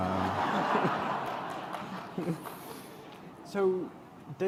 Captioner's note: laughter